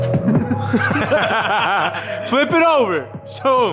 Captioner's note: laughing